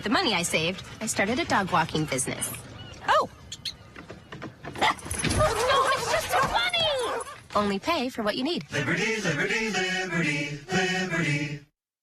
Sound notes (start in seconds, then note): 5.3 dog barks